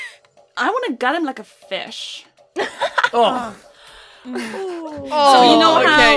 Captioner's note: laughter and noises of disgust